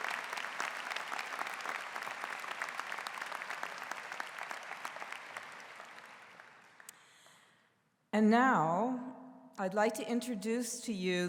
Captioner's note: �applause�